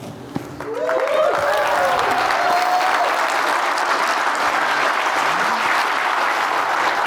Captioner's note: audience applauding; audience cheering